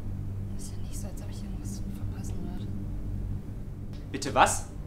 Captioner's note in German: whispering